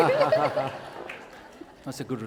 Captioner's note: laughter